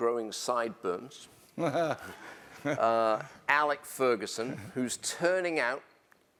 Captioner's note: laugh